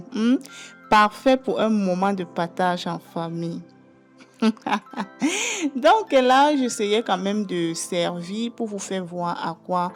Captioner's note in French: rires